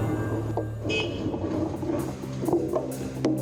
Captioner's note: car horn